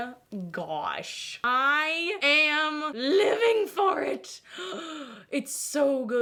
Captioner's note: gasps